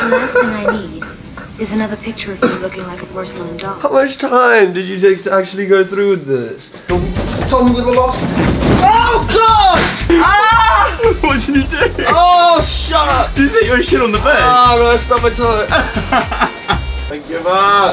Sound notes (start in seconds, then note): 15.5 laughs